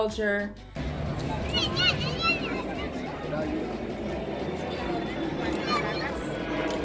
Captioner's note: people murmuring in foreign language